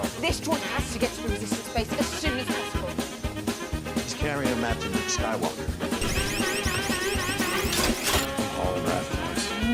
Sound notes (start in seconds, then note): 5.9 rapid whirring; 8.1 mechanical noise and whirring stops